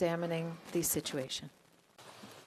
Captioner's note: speaking French